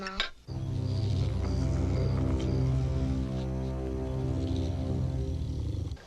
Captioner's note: deep ominous music; creature growling lowly